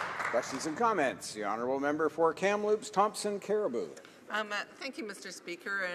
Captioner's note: applause